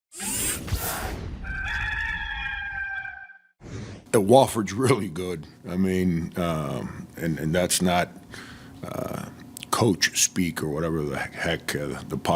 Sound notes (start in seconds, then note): 0.3 air whooshing; 1.4 cock crowing